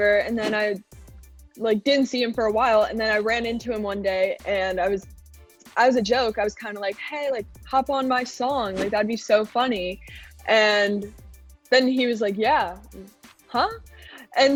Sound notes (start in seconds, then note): 0.4 scene whooshing; 8.7 scene whooshing